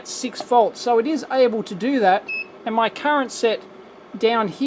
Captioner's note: beeps